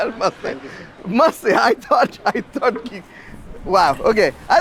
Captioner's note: speaking in foreign language